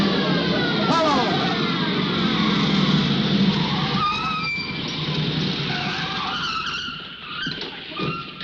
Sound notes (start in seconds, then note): 4.2 tires screech